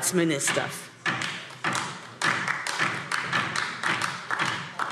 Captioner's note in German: Beifall DIE LINKE